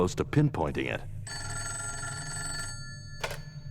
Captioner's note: telephone rings